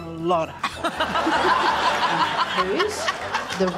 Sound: laughter

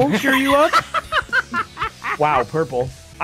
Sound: laughs

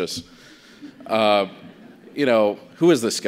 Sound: audience chuckles

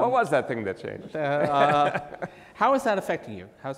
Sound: laughs

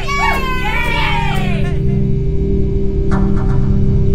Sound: other cheering sounds; ominous night sounds commence

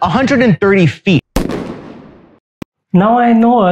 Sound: dramatic gun shot sound

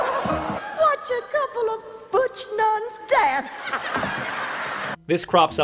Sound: audience laughter

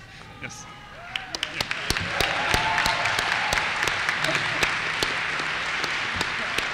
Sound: applause

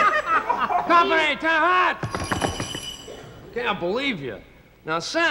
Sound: laughs; hooves stomp

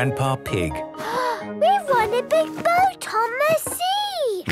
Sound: gasps

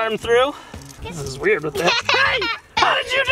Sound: shrieks

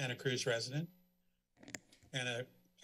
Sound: mic creaks

